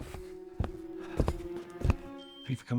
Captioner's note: footsteps approaching